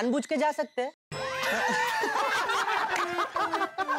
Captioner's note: laughing